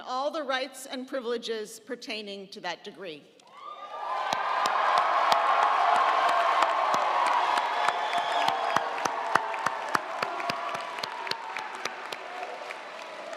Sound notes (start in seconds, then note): 3.5 audience cheering; 3.6 audience applauding